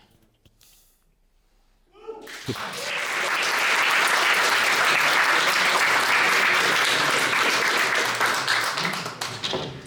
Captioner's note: audience clapping